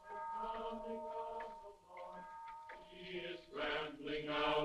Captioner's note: people chanting